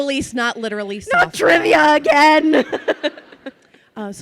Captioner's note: laughs